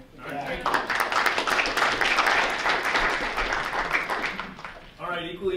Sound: group applauding

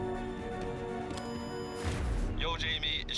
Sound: telephone beeps

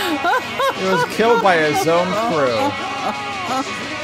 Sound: laughs

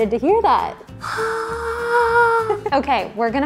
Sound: gasps

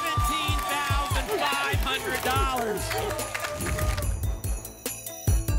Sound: applause and cheering

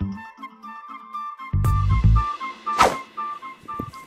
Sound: whoosh

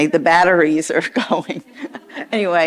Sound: chuckles

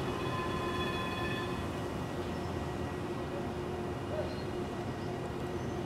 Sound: railroad bell?

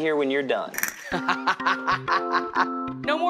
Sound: laughing

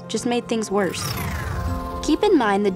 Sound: scene whooshes

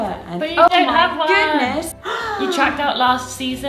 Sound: gasps

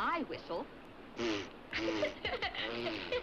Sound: Jens laughs

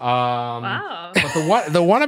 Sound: laughs

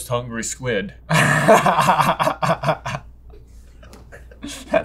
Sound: laughs

